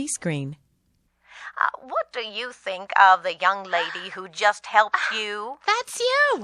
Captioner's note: granny's voice